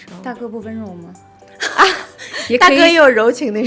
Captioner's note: laughing